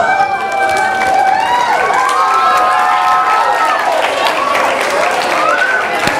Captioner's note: audience applause